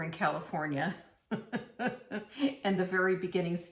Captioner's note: chuckles